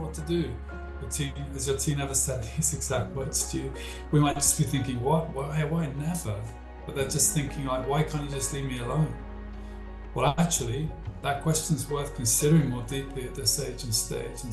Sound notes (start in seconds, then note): 9.6 breath